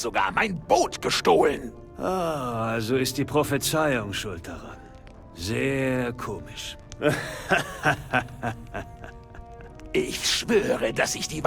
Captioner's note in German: gelächter